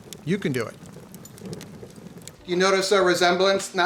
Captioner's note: crackling fire